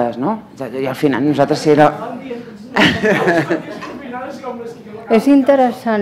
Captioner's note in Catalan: parla sense micròfon